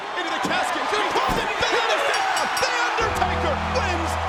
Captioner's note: audience cheers; bell rings